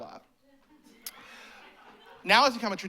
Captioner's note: laughter